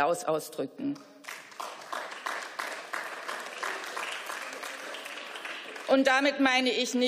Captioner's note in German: Beifall